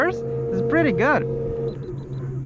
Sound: beeping

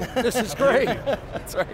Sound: lauhging

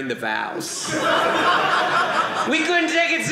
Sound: audience laughing

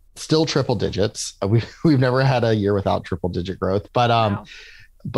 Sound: laughs

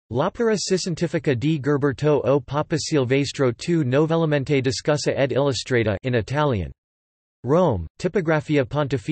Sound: in Italian

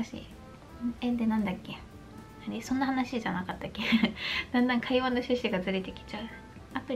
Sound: laughter

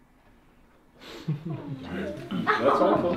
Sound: students chuckling

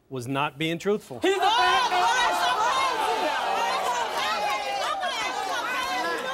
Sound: cheers

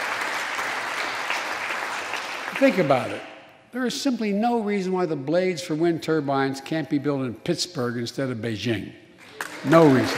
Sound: applause

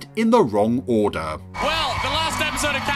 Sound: audience cheering

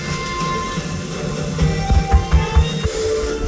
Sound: knock knock knock

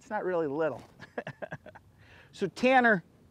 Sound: laughing

